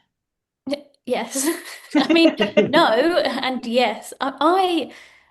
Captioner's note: chuckles